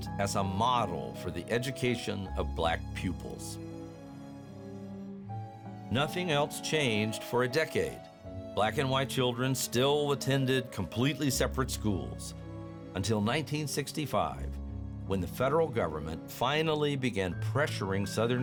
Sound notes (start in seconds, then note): none